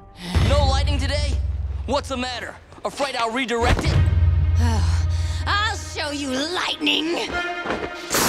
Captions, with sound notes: No lighting today? What's the matter? Afraid I'll redirect it? [sighing] I'll show you lightning!